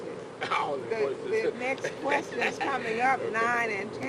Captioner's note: laughs